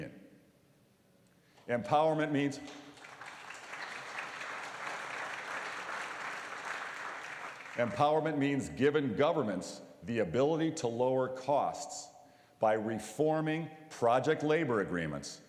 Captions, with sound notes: EMPOWERMENT MEANS -- (APPLAUSE) . EMPOWERMENT MEANS GIVING GOVERNMENTS THE ABILITY TO LOWER COSTS BY REFORMING PROJECT LABOR